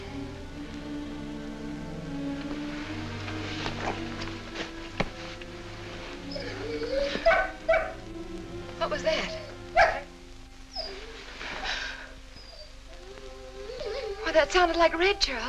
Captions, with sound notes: Here, dear. Put this out, will you? [whining and barking] What was that?